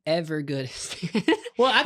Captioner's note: laughs